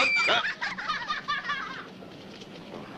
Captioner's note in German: Schreien und Lachen